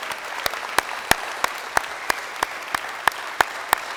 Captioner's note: crowd applauding